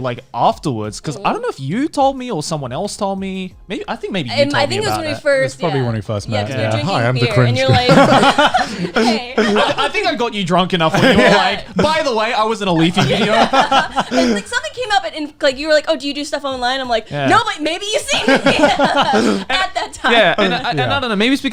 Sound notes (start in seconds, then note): 8.9 laughing; 12.8 laughing; 18.0 laughs